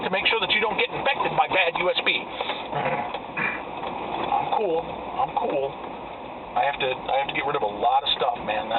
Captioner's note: grr